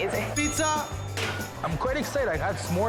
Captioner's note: bell dings